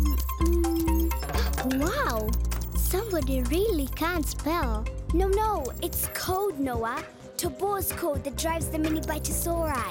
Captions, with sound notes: (Noah gasps) - Wow! Somebody really can't spell. - No, no. It's code, Noah. Tobor's code that drives the Mini Bitosauri.